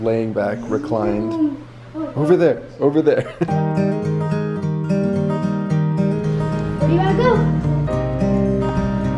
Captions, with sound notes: laying back reclined. Over there, over there (laughs). (upbeat guitar music) - Where do you want to go?